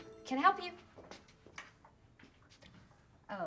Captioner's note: footstep